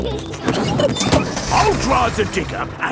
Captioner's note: peppa and george laughing